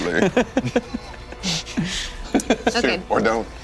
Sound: laughing

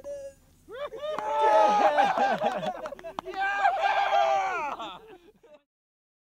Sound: crowd cheering uproariously

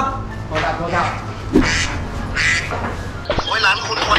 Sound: phone ringing continues

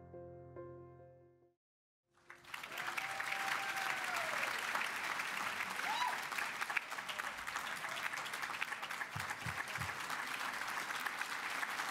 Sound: cheering and Applause

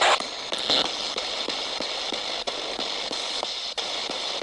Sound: ghost box hissing

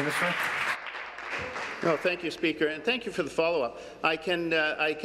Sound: applause

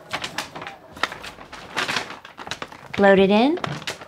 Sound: paper bag rustling

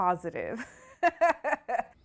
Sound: laughter

